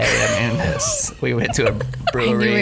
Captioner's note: laughs